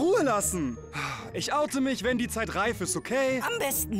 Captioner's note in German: Seufzen